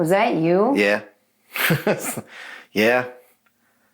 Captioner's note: chuckles